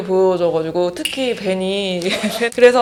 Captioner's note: laughs